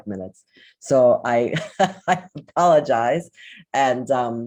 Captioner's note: laughs